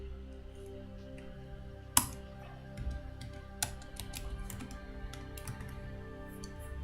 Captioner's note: calm music; keyboard clicking